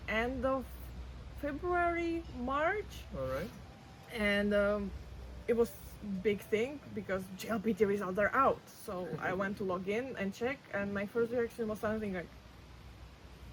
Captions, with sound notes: end of February, March. All right. And, um, it was big thing because JLPT results are out. So- (laughs) ... I went to log in and check, and my first reaction was something like,